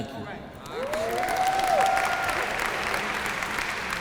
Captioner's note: applause